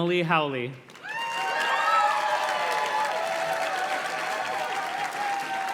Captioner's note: audience cheers and claps